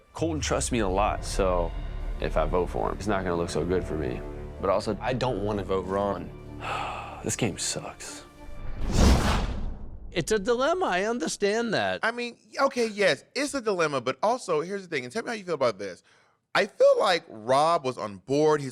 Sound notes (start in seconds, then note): 6.6 sighs; 8.4 whoosh